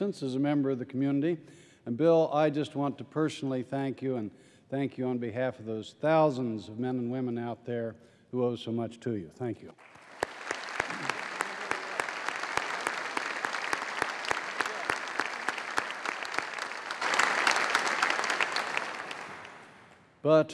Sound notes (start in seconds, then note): 10.2 applause